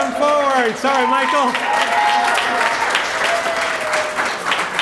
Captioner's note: applause